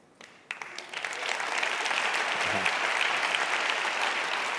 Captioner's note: audience applauds